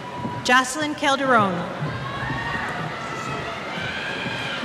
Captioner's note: cheers